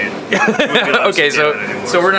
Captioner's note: laughing